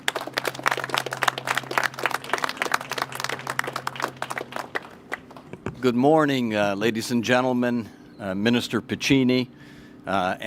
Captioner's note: applause